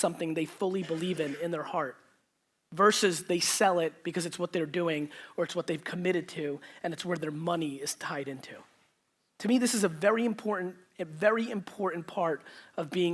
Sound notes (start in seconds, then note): none